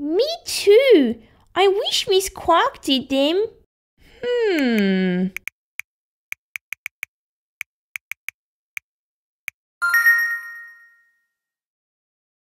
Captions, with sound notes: Me too I wish Miss Clarke did them Hmmm... (Typing) (Ding!)